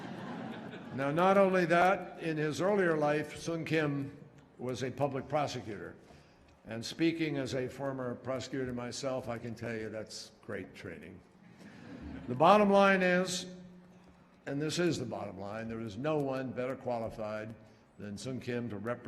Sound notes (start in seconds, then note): 0.0 laughter; 11.6 laughter